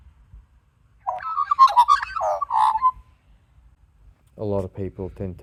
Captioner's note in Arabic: غناء طائر العقعق